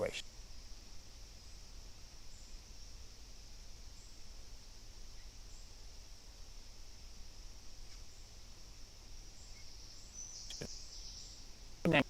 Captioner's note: break in transmission